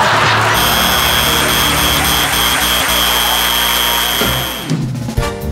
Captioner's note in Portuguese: campainha e aplausos